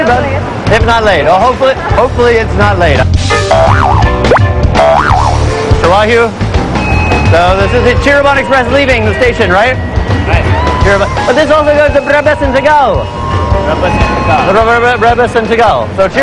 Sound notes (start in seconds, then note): 4.7 boing; 11.9 speaking indonesian